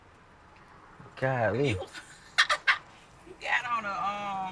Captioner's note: laughs